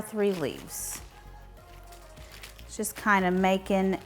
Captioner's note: lettuce leaves rustling; leaves rustling some more